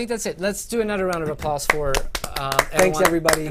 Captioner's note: applause